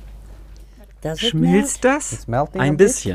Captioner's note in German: englisch